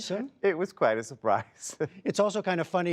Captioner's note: laughter